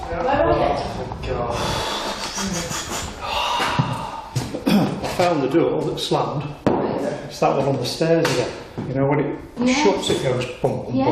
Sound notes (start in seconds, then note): 2.0 chuckles